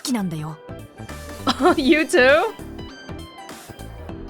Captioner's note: chuckles